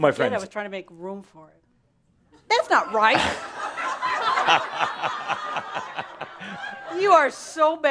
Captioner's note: lots of laughter